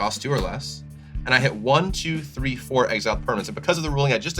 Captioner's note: counting